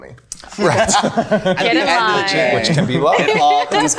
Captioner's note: group laughing